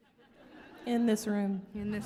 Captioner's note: audience laughing